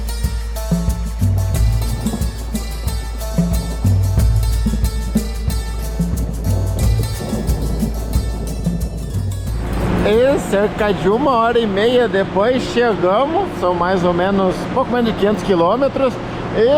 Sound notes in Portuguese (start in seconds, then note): 6.2 trovoadas